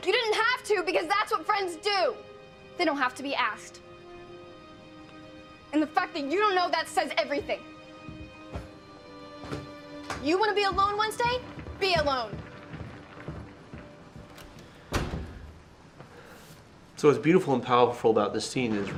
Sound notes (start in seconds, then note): 14.8 door slams shut